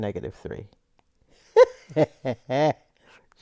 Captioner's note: laughter